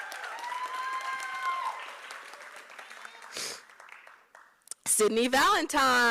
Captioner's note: applause